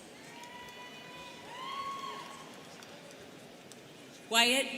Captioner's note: students cheering